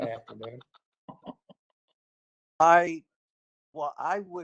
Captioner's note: laughter